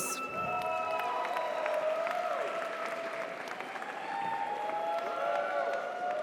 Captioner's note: audience cheers; audience applauds